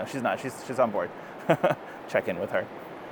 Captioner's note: laughs